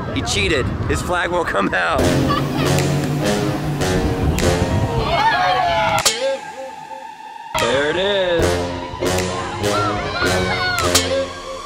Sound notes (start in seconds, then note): 2.5 epic music plays; 6.5 audience cheers